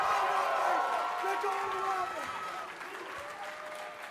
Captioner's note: cheers & applause